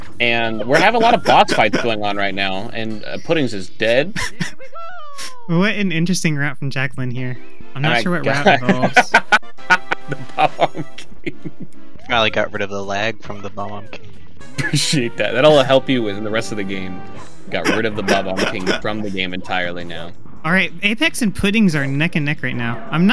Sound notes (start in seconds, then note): 8.4 laughter; 9.6 laughing